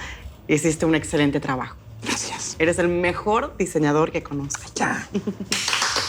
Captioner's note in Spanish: Aplausos